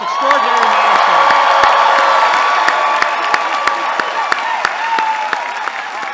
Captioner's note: cheering